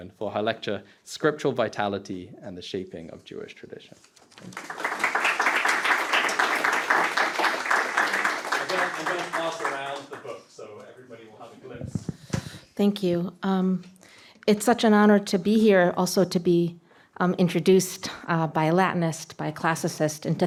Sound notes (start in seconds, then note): 4.3 applause